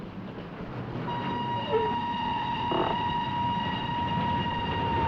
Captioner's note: train whistle